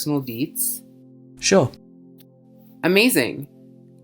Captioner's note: voiceover